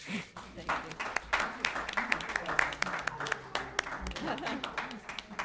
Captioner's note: applause